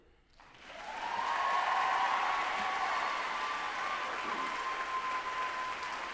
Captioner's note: group applauding and cheering loudly